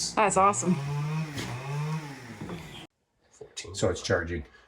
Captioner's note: machine droning